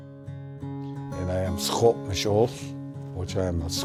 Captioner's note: speaking Indigenous language